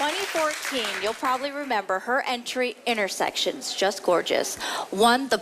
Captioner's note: applause